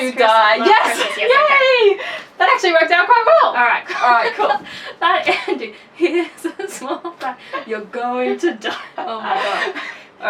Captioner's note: laughing